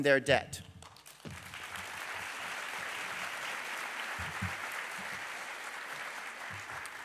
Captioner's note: applause